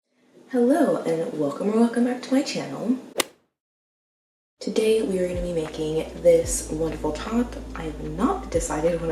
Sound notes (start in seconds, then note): 3.1 golf hit sound effect